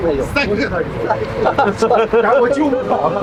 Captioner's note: nervous laughter